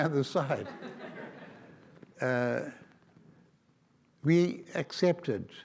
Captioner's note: audience laughs